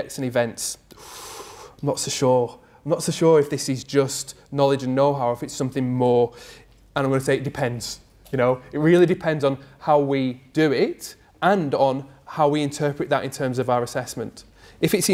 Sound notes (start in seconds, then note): 0.9 draws in breath